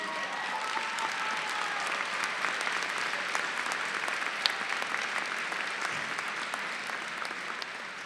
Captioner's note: applause